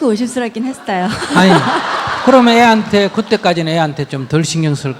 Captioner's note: audience Laughter